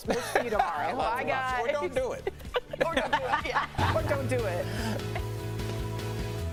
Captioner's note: laughter